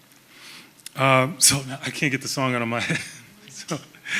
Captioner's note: chuckles